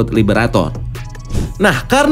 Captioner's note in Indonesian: suara transisi